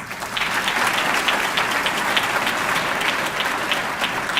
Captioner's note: audience clapping